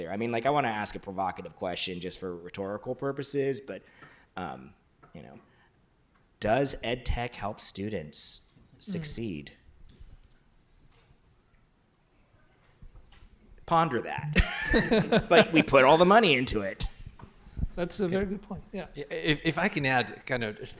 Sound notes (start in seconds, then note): 14.3 laughter